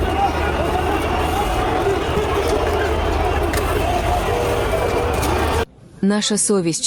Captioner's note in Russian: шумит толпа людей